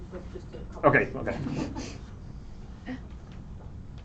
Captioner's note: laughter